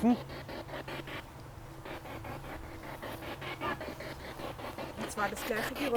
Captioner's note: sound of the Spirit Box in the background